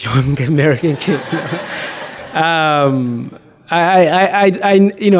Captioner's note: audience laughs